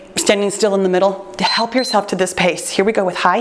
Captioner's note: timer beeps